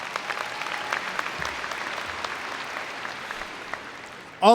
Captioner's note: applause